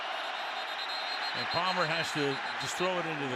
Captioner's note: whistle